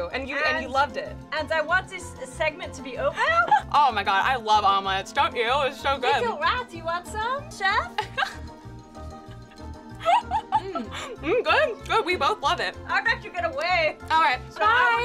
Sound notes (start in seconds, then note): 9.1 laughs